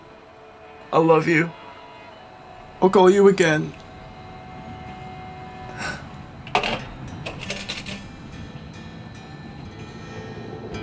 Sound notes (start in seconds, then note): 6.4 coins dropping